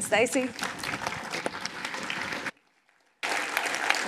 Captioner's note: applause